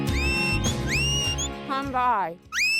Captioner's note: whistles; whistling